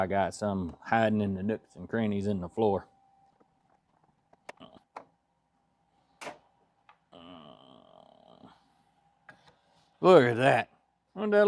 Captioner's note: groans